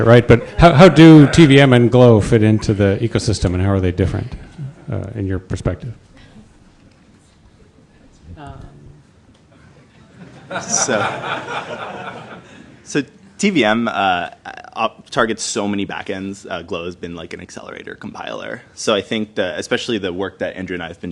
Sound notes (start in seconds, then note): 10.0 laughter